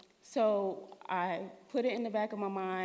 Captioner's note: none